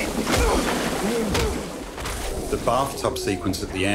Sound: punches landing

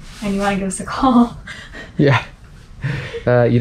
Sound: both laughs

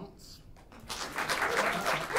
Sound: applause

